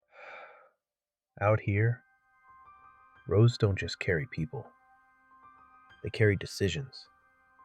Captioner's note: exhales